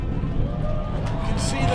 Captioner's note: crowd cheering